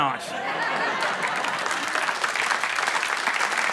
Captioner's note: laughter and applause